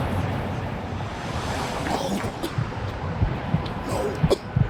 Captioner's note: cough